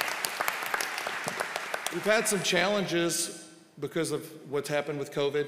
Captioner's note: applause